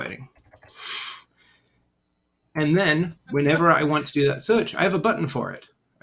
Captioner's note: chuckles